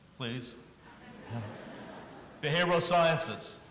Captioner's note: audience laughing